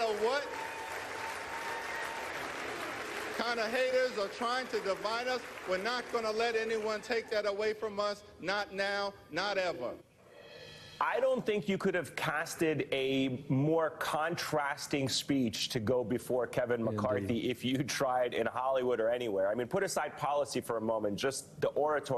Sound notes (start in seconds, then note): 8.2 applause